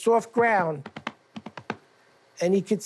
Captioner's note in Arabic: يخلق أصوات حوافر الحصان